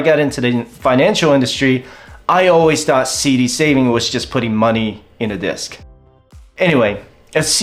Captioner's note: sigh